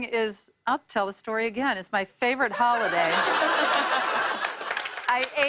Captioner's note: laughter